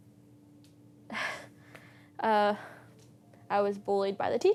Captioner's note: sharp exhale